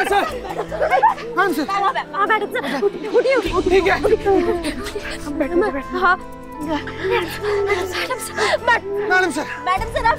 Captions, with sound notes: Maddam Sir, please wake up, Maddam Sir! Maddam Sir, you have to wake up! [crying] Maddam Sir, please wake up! Maddam Sir, please wake up! [sad song playing]